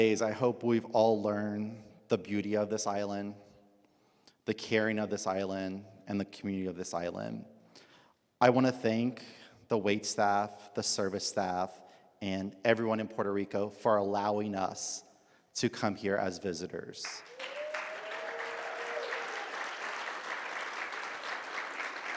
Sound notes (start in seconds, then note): 17.1 audience applauds